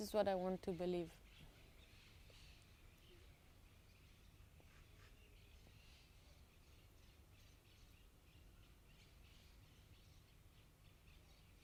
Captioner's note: pauses 12 seconds